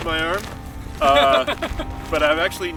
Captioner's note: laughing